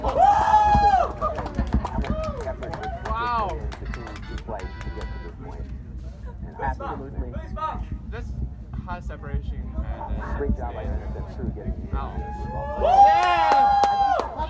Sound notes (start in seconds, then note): 0.8 claps